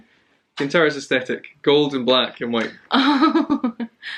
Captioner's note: laughs